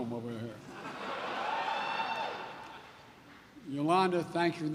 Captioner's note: laughter